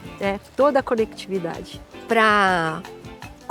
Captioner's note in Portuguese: none